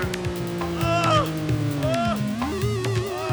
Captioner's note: man groaning